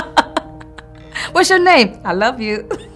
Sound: laughter

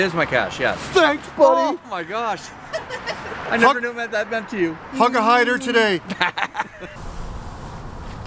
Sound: laughter

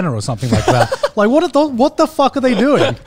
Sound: laughing

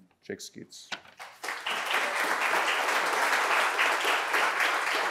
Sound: audience applauds

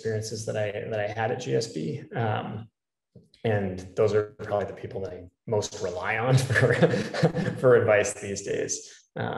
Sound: laugh

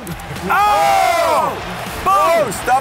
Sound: screams

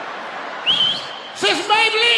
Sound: whistling

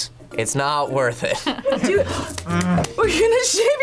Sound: claps

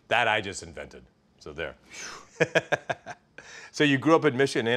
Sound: chuckles

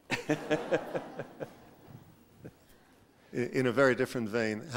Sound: laughter

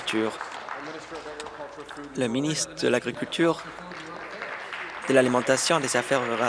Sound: applause

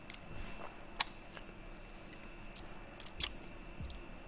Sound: lips smack

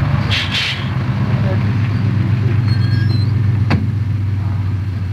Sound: airbrakes; bus door opens

